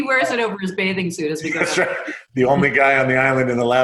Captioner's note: chuckles